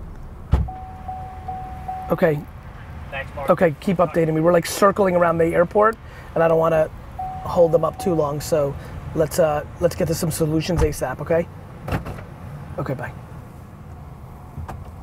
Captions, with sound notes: (beeping) Okay. Okay, keep updating me. We're like circling around the airport and I don't wanna hold them up too long. So, let's get them some solutions ASAP, okay? Okay, bye.